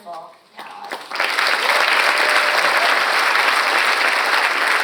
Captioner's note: audience applauds